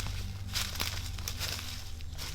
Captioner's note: rustling leaves